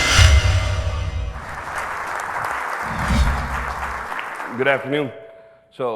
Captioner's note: audience clapping